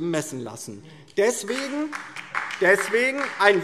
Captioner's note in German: Beifall DIE LINKE